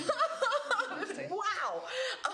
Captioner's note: laughs